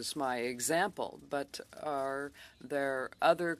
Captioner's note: speaking French